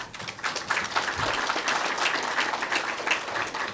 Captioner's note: applause